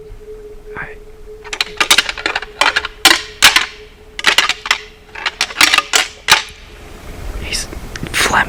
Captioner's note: sound of rattling